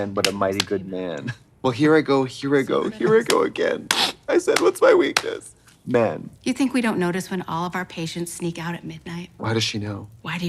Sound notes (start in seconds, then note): 1.0 Trixie clapping; 4.5 Katya clapping; 5.2 Trixie fake crying